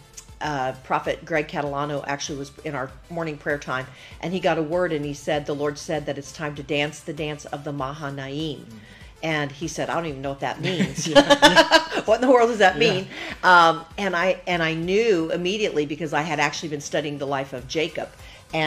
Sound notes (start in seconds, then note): 10.6 both laugh